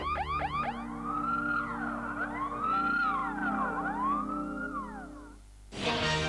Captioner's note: sound of ambulance flasher; sound of police car flashing